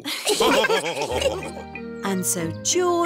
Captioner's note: laughs; all laughing